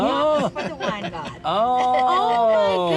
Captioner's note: laughing